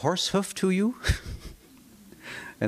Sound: chuckles

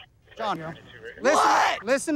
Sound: screaming

